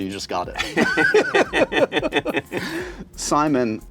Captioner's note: laughter